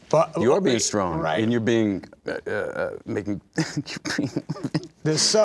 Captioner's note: laughing